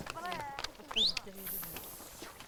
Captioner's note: whistling